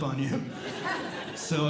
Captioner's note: audience Laughing